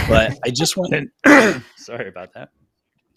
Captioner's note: clears throat